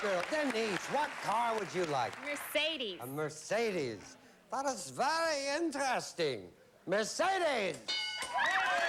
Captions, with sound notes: DENISE, WHAT CAR WOULD YOU LIKE? A MERCEDES. A MERCEDES. [GERMAN ACCENT] THAT IS VERY INTERESTING. [REGULAR VOICE] MERCEDES?